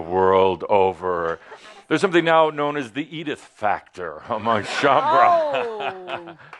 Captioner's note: laughter